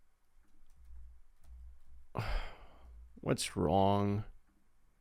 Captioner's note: sighs